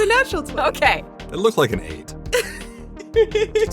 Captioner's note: laughs